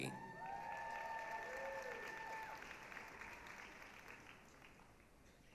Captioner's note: applause, cheering